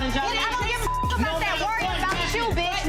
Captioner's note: beep